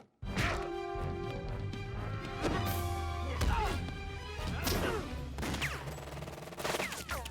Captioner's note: dramatic music; punches landing; guns firing; dramatic music